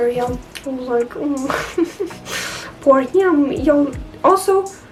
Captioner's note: sniflling